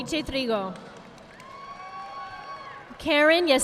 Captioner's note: audience applauding